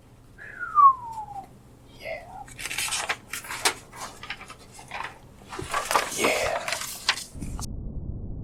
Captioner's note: whistle